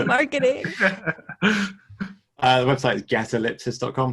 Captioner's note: all laughing